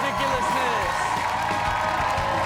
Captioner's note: audience cheers